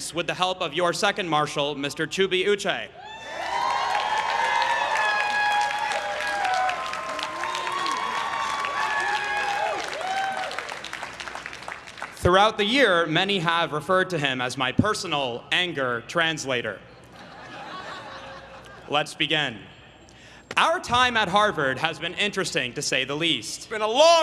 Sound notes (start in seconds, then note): 4.6 everyone cheering and applauding